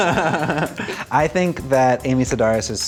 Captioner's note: laughter